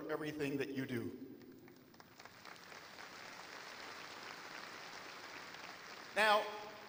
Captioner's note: applause